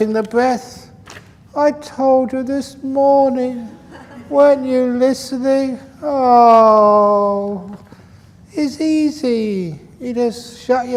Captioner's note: laughter